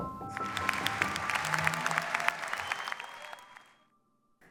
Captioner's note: applause